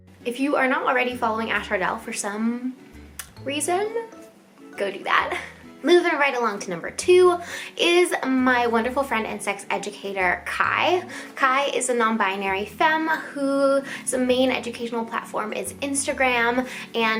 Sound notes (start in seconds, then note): 0.0 playful music; 3.1 smacks lips